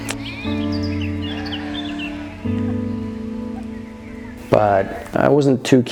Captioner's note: sheep bleating